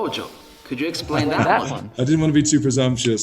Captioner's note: laughs